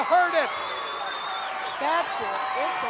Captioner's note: audience cheering